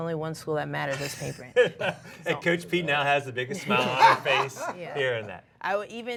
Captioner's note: laughs